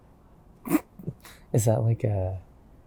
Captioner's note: chuckles